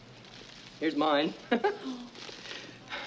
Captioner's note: laughs